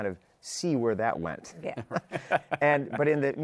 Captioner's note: laughs